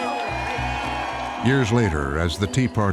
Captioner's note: crowd cheering